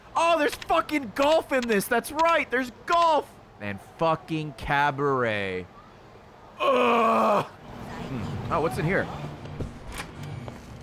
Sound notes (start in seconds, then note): 6.6 groans in disgust